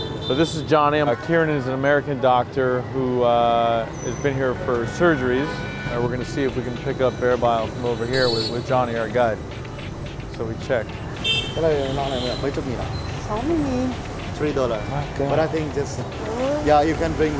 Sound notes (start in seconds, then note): 11.1 car honking; 12.3 non-english speech; 15.9 non-english speech